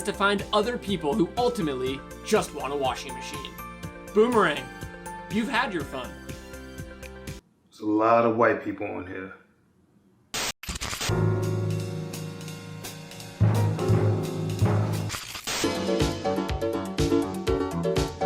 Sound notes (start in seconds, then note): 10.3 TV static; 11.1 jazz music; 15.0 TV static; 15.9 upbeat pop music